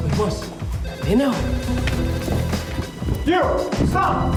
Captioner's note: speaking in foreign language